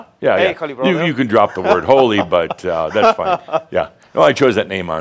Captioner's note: chuckles